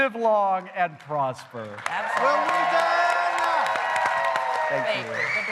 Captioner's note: applause